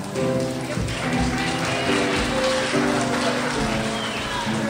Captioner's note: crowd applauds